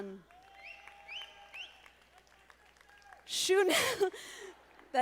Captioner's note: audience applauding